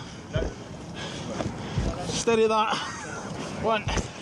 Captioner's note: rescuer panting